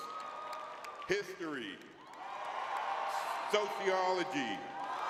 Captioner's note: audience cheering